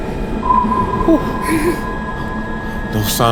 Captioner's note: sonar pinging